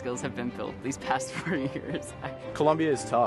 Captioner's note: student laughing